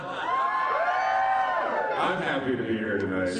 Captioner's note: cheering